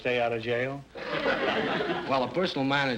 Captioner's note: audience laughter